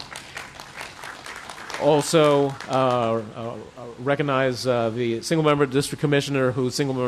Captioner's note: applause